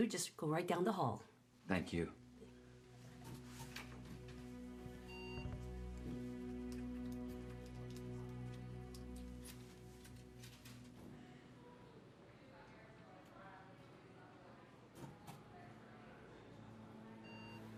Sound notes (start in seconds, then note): 3.4 equipment beeping; 12.6 staff chattering